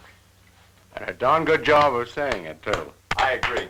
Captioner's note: claps